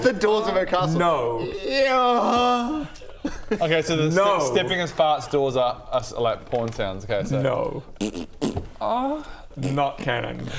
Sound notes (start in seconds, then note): 1.0 eeeerruggggh